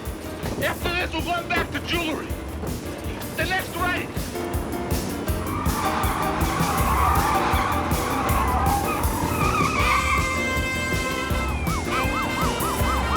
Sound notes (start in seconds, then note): 5.1 tiers screeching; 10.9 siren blaring